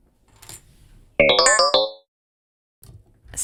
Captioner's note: error sfx